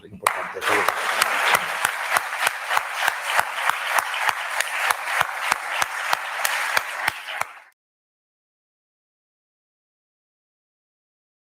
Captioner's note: applause